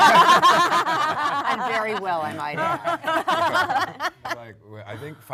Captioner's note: panel laughs